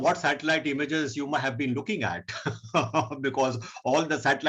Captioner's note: chuckling